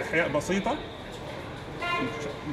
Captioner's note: horn honking